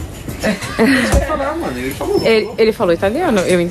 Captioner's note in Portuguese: risos